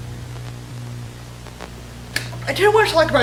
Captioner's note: static continues